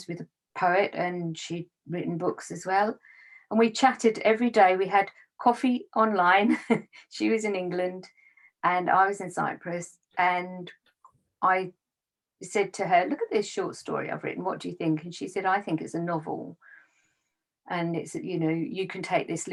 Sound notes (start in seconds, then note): 6.4 chuckles